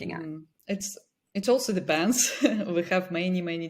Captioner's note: chuckles